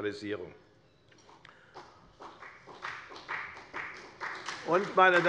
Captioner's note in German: Beifall bei der FDP